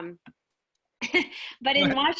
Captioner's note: chuckles